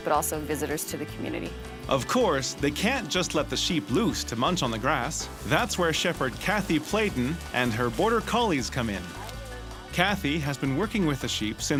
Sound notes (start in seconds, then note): 2.1 voiceover